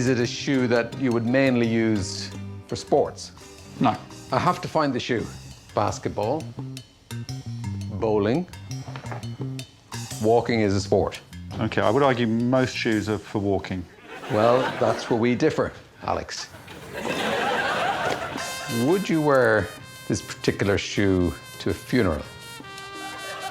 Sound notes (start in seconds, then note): 16.5 laughter